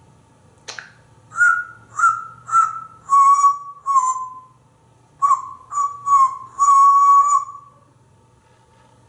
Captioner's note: whistling